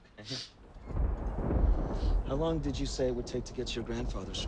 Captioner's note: thunder rumbling